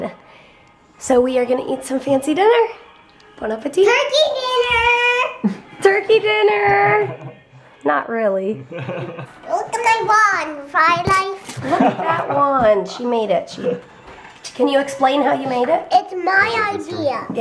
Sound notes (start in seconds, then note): 8.7 laughs